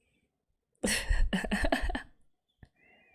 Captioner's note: laughs